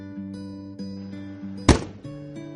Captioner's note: slamming